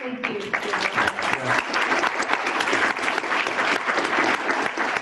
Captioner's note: applause